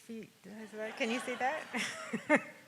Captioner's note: laughs